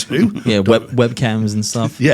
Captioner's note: laughing